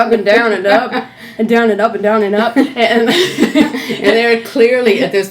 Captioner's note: laughs